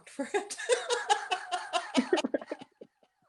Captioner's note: laughter